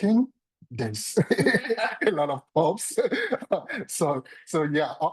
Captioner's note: laughs